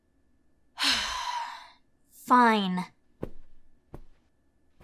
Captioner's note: sigh